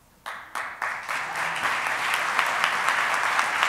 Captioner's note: applauding